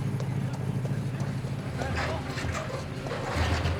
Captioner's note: people chattering